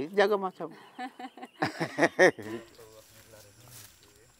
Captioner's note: both laughs